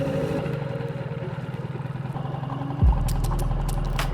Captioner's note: boat engine purring